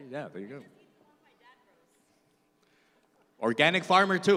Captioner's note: indistinct background chatter